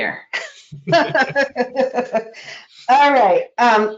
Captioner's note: laughing